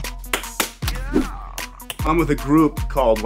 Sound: hands slapping

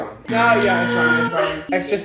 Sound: buzzer

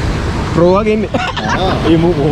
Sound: laughing

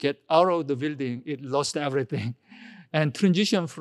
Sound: laughs

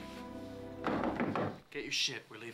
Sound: knocking

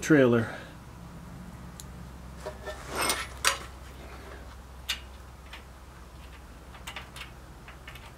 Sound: metallic noise

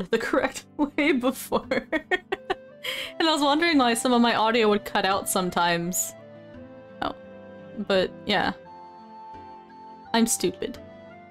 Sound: laughs

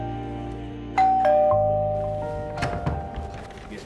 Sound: bell rings

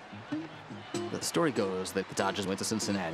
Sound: voiceover

